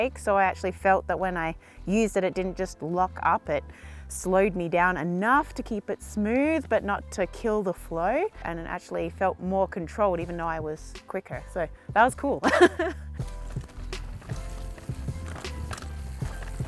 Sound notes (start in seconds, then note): 12.4 laughs; 14.0 upbeat music